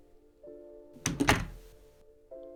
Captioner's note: front door closing